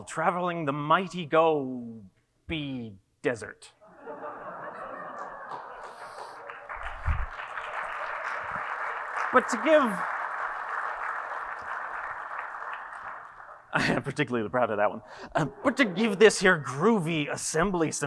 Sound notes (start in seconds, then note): 3.9 audience laughing and applauding; 10.9 audience applauding